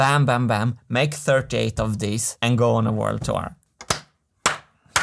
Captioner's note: claps hands